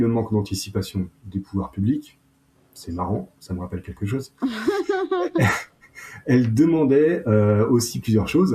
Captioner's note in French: rires